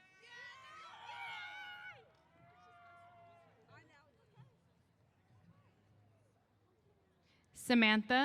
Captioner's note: cheers